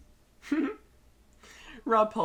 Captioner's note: giggles